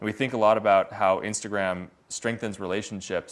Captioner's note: none